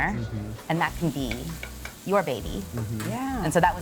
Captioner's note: food sizzling